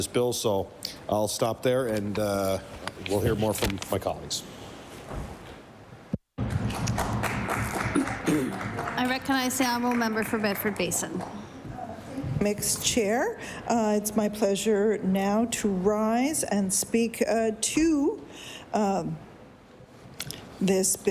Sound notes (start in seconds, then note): 11.1 some Applause